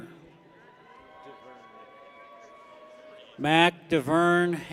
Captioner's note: people cheer